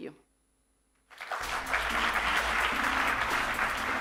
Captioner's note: applause